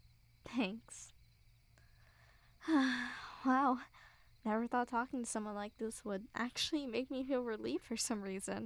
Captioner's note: sigh